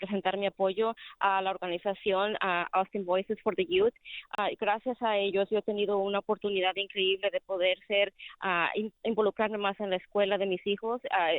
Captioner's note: speaking spanish